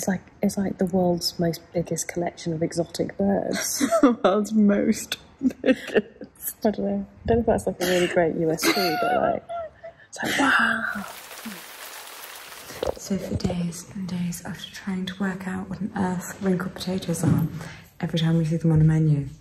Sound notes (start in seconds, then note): 6.0 laughs; 10.9 water splashes